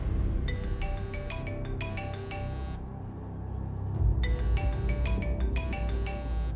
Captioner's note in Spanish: Suena el celular